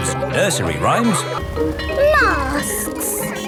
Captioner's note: bell ringing